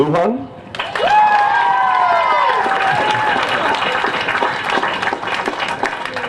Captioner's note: applause